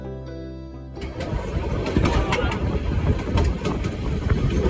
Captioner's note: railway noises